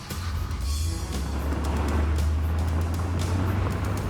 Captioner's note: Humvee rumbling; engine starting; suspenseful music continues